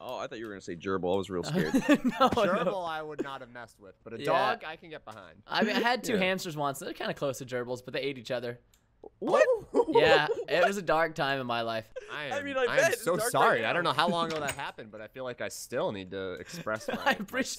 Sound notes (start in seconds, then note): 2.6 laughs; 9.7 laughter